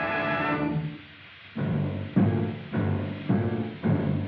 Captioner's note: steam Hissing